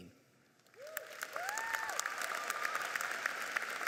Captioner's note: applauding